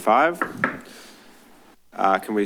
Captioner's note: soft bang